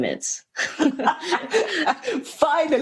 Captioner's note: laughter